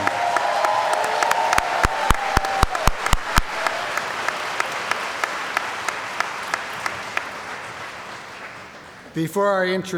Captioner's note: cheering & Applause